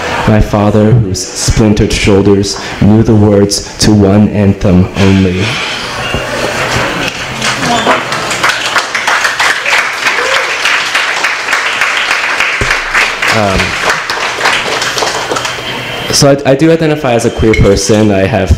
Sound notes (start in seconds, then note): 7.8 applause